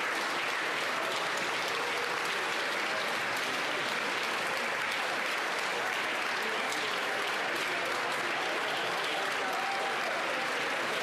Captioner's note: continued applause